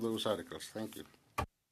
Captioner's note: speaking French